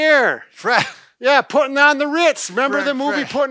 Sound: laughter

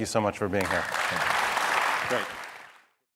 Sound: audience applauding

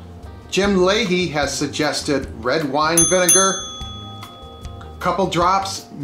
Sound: dinging

